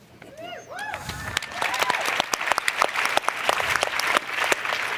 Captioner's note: applause